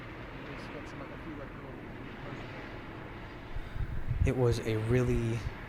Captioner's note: wind blows; muffled chatter